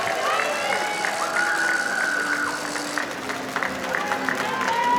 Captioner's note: audience applauding; audience cheering